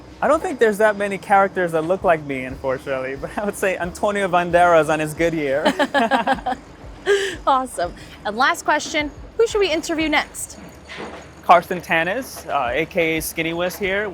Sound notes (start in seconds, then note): 5.6 both laugh